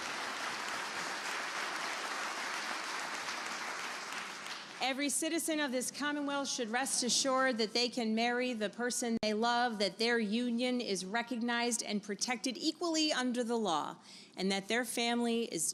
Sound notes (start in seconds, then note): 4.9 applause